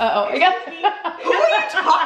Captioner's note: laughs